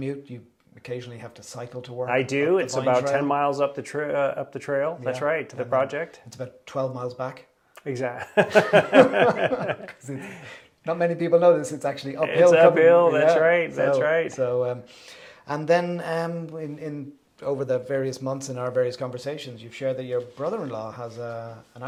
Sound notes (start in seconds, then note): 8.2 both laughing